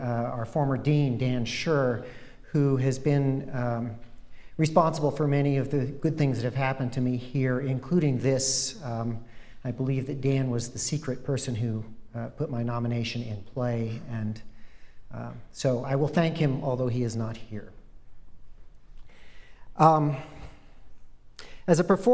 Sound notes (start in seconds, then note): none